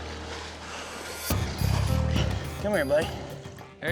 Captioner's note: splashing